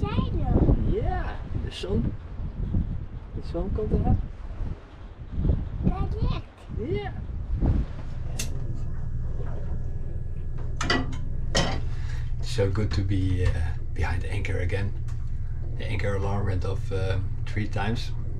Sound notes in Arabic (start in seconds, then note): 1.4 التحدث بلغة أجنبية